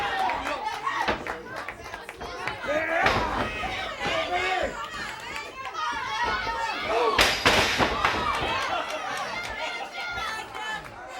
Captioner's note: crowd chatter